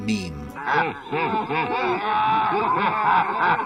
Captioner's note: evil laughter